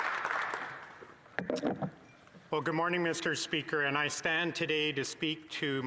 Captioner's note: some Applause